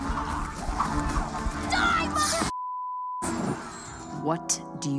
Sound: beep

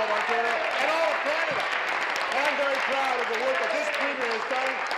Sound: applause

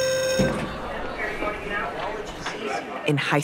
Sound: bell rings / school sound

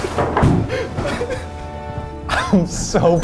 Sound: laughing

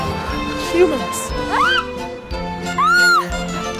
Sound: ladybugs scream

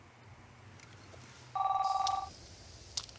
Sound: phone rings

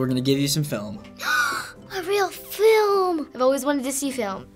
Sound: gasps

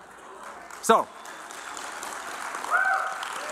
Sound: applause

